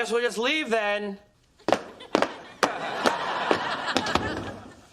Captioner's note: guys stomp loudly on the floor and close the door